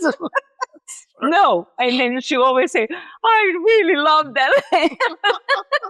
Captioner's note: laughs